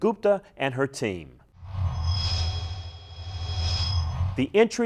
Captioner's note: sound Effects